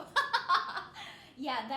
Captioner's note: laughing